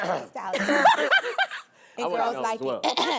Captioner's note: laughing